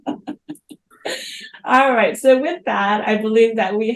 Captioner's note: laughs